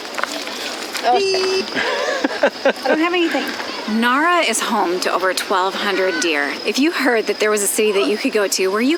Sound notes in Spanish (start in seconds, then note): 1.1 riendo